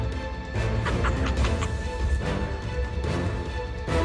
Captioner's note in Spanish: Carcajadas